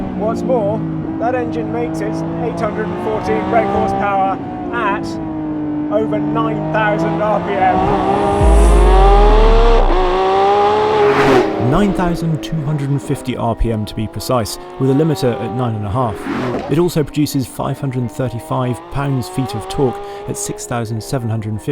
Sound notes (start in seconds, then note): 7.9 car engine revving ferociously